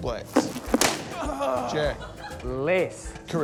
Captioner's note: balloons pop